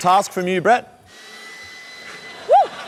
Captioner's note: leaf blower blows